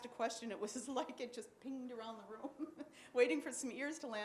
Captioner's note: chuckles; chuckles